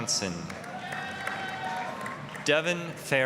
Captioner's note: applause, cheering